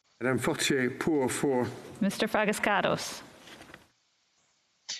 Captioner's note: speaking French